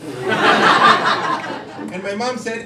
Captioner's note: crowd laughing